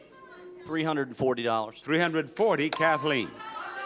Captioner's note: counter beeps; audience shouts incoherently